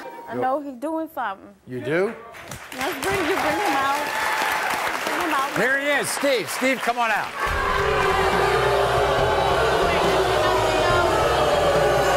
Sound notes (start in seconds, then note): 7.3 audience boos